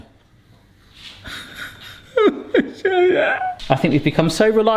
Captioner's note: cries